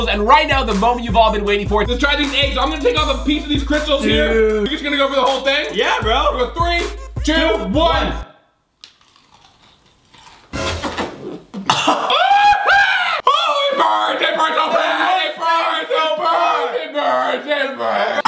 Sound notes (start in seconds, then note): 8.8 crunching; 11.5 coughing; 12.4 screeching